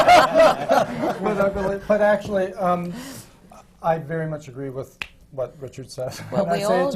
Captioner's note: laughter